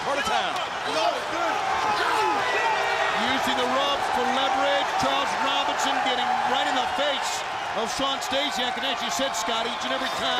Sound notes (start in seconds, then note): 1.2 crowd chatter